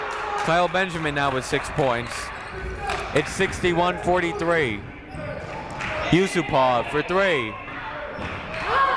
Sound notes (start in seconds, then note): 4.3 shouting